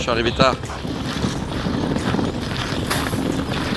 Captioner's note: casters noise